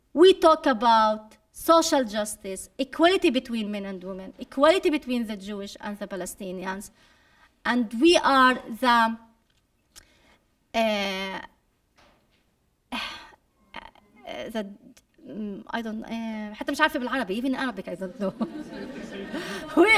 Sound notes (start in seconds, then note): 13.8 speaking arabic; 18.1 laughter